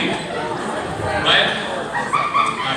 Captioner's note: high pitched laughter